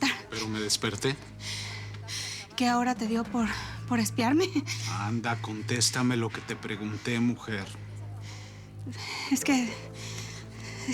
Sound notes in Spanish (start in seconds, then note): 3.0 Jadeamdo